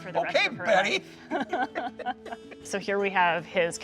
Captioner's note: laughs